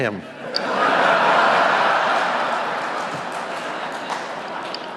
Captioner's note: audience laughing